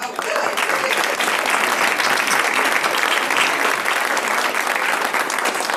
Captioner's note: applause